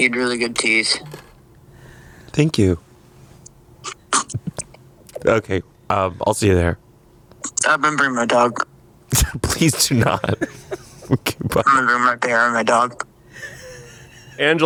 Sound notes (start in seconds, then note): 9.2 laughs